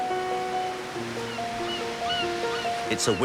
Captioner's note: gulls calling